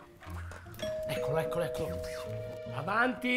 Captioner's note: door rings